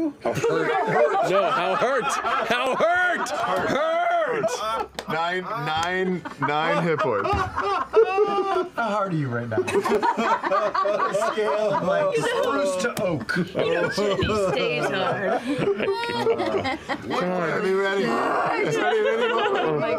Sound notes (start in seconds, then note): 0.2 the cast laugh and repeat "hard"; 3.6 the cast are still laughing; 6.1 slams his fist on the table; 9.8 laughs the loudest